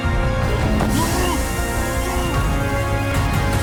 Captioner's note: guard grunts in surprise